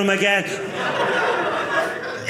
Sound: audience laughing

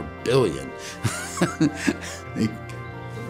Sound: laughing

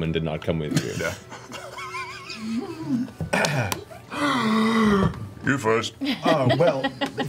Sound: laughs

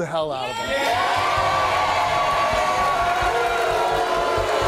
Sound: audience cheering; audience booing

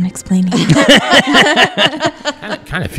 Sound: laughter

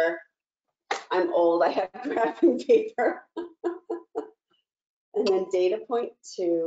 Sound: chuckles

